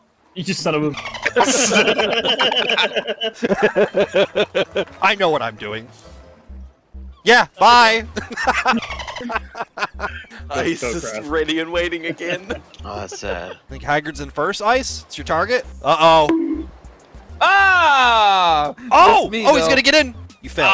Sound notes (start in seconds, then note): 1.2 group laughter; 8.1 laughter